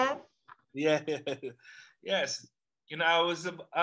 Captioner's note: laughs